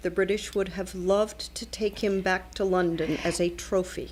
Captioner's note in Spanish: Hablando ingl\s